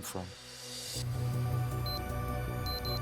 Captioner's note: electronic beeping